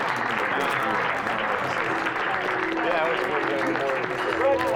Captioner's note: applause continues